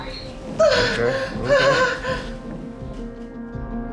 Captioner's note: cries; suspenseful music